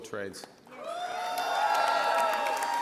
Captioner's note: applause